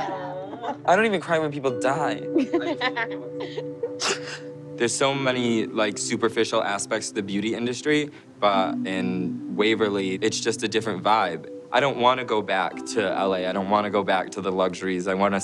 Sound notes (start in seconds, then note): 1.5 laughing; 2.4 sobs